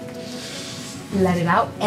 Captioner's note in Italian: le donne prendono un respiro